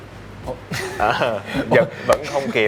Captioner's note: laugh